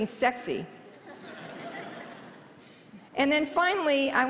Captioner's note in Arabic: ضحك